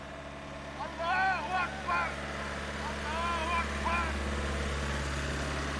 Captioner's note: man speaking foreign language